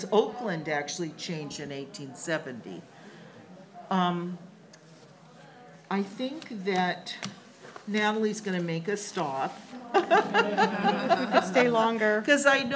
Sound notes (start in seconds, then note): 10.0 laughs